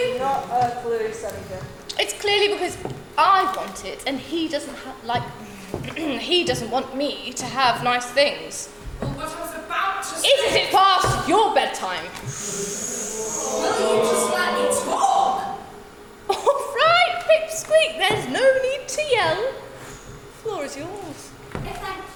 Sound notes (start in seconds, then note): 12.4 audience oohs